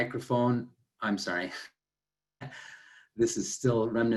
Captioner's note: laughing